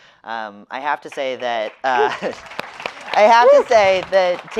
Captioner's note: audience applauding